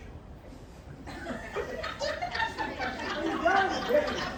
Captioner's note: laughter from Audience